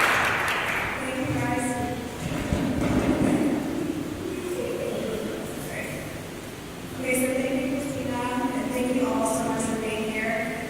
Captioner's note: applause